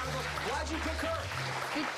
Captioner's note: applause